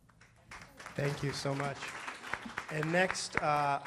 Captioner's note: audience applauding